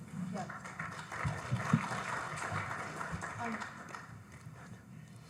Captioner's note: audience applauding